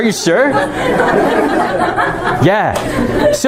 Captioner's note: laughter